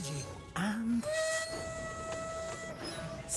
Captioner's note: toot!